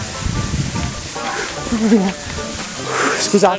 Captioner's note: moans and sighs